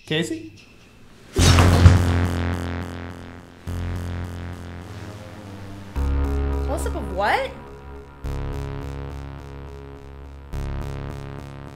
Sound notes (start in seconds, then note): 1.2 thudding; 1.4 tense music